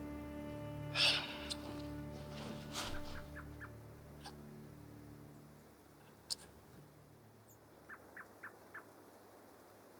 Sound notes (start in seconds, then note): 0.9 deep exhale